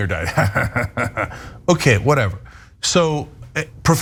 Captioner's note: laugh